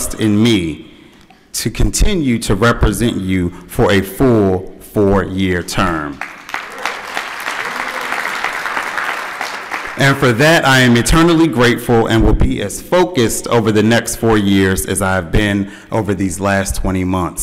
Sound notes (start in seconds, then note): 8.6 applause